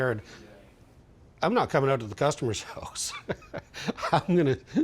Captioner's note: chuckles